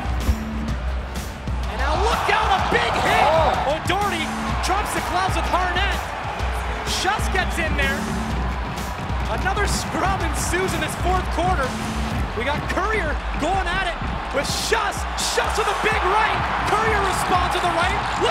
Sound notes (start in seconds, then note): 3.2 exclaims